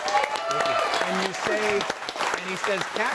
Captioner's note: audience applauds and cheers